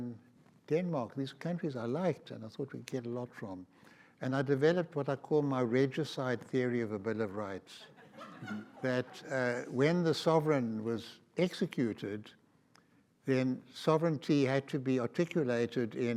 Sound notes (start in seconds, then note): 7.7 audience laughs